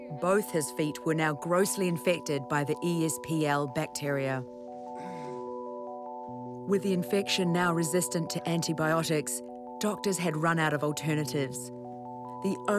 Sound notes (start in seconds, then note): 4.9 grunts